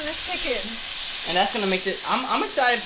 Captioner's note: chicken sizzling